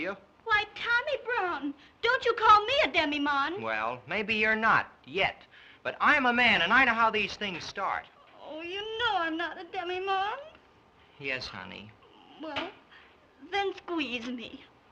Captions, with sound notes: Why, Tommy Brown, don't you call me a demimonde. Well, maybe you're not... yet. But I'm a man, and I know how these things start. [whines] Oh, you know I'm not a demimonde. Yes, honey. Well, then squeeze me.